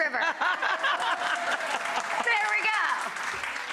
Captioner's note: laughing; audience applauding